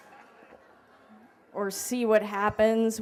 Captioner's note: laughter